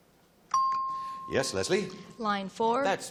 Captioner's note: ping